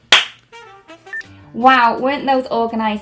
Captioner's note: clapping